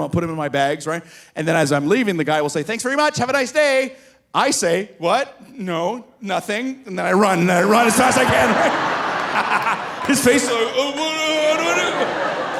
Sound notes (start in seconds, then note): 9.5 laughing; 12.4 audience laughing